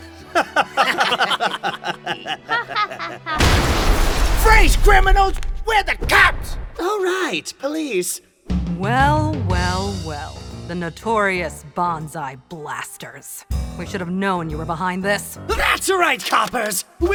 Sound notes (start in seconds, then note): 0.0 corny sitcom laughter; 3.4 explosion